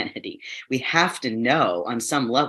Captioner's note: chuckles